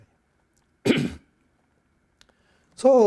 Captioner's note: coughs